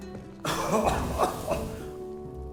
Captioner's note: coughs